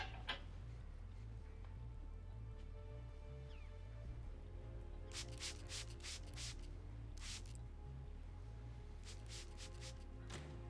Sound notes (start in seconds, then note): 5.1 water spraying